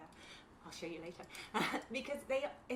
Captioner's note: laughs